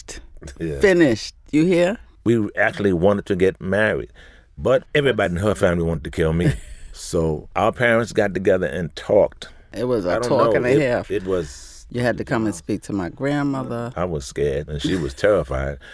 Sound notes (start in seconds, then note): 6.7 laughs